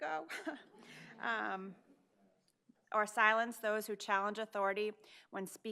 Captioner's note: laughs